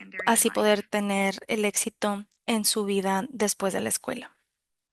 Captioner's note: speaking spanish